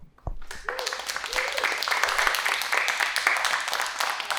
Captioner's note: audience applauding